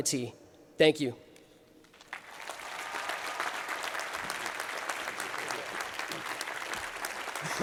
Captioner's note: applause